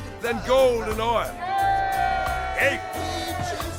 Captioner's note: crowd cheers